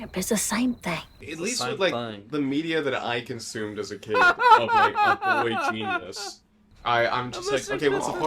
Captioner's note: laughing